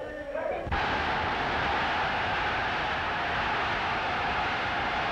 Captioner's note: crowd shouting